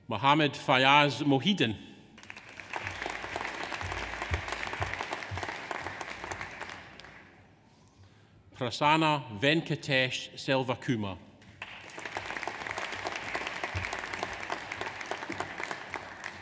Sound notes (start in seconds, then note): 2.2 audience applauds; 11.5 audience applauds